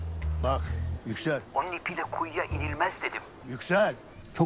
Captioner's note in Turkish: Yüksel ses